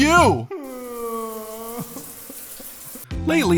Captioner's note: crying